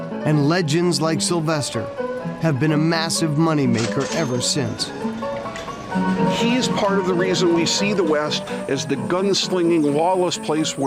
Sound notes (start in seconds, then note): 4.0 register bell dinging; 4.4 ragtime music continues